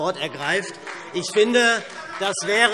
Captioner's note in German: Beifall SPD